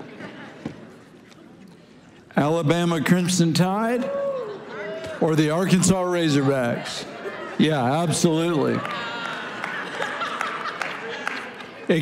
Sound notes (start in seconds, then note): 0.2 congregation laughing; 7.2 congregation exclaiming; 8.0 congregation applauding